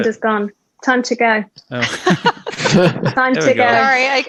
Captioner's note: laughs